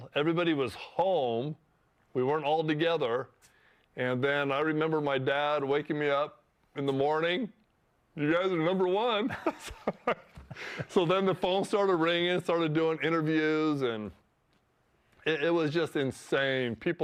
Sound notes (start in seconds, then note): 9.2 laughs